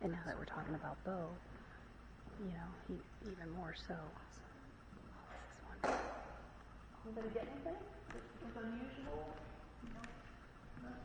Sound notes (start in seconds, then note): 5.8 knock